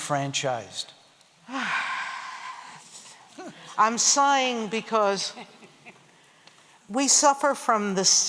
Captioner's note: sighs